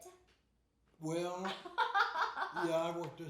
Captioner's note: laughing